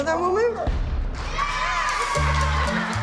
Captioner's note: cheers and applause